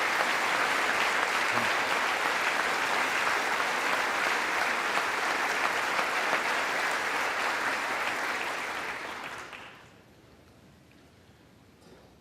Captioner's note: applause